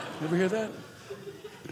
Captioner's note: audience laughing